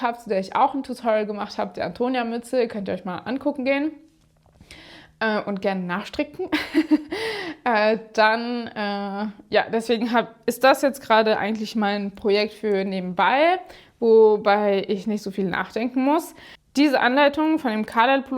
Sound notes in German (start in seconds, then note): 6.5 gelächter